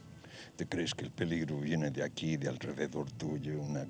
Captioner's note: speaking spanish